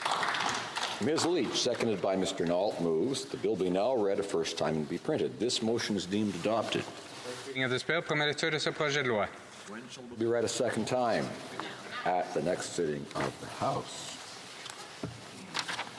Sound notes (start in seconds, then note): 11.1 speaking French